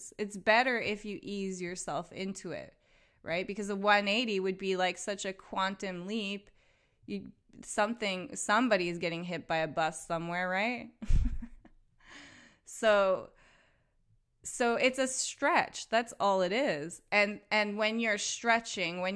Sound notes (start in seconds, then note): 11.0 chuckles